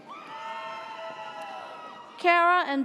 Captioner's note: audience cheers